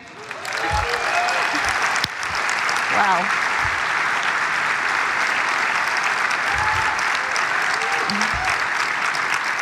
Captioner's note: cheers and applause